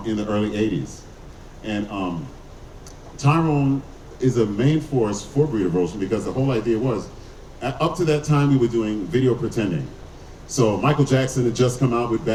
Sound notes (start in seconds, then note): none